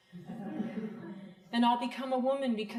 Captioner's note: crowd laughing